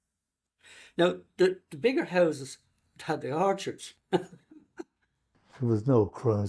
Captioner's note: laughs